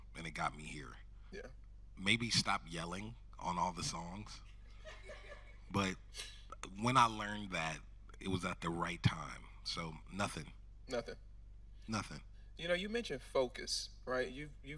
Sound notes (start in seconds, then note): 5.7 audience chuckling